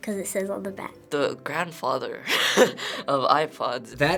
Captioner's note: laughs